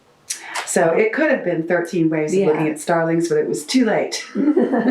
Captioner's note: laughter